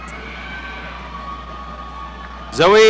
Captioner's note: audience cheering